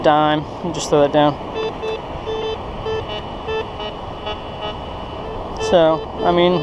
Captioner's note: detector beeps and buzzes